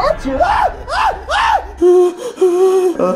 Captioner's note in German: schreit